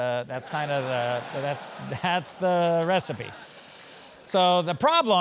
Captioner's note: laugh